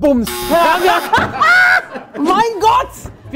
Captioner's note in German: Lachen